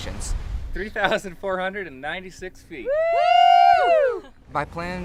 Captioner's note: cheers